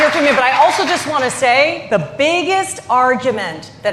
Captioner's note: applause